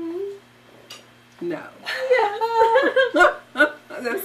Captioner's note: laughing